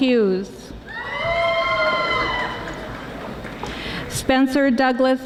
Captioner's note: audience applauding